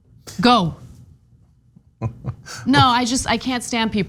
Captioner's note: laugh